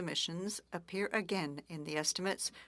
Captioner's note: speaking French